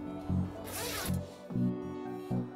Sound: zipper zipping

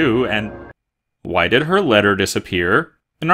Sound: none

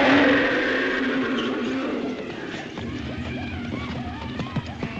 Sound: roaring

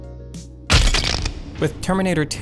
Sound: bones crushing

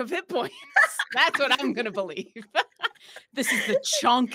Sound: laughs

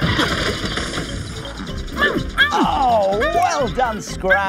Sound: clanging

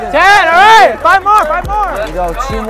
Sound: crowd clapping hands

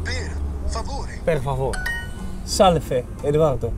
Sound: sound Duolingo

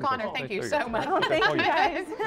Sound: laughter

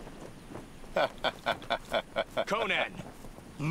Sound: laughing

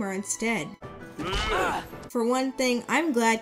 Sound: Sora yelps in pain

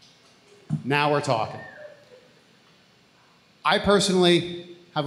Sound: audience member whistles

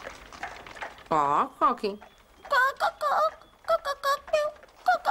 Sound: clucking

